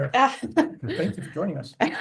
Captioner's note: laughs